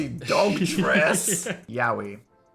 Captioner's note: Phil laughing